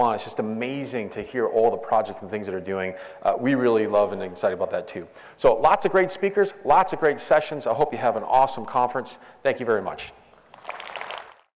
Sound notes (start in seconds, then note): 10.5 applause